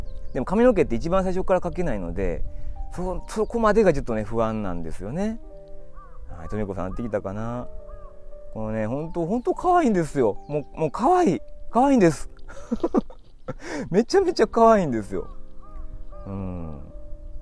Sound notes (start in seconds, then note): 12.4 laughs